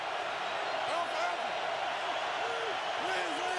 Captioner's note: crowd cheering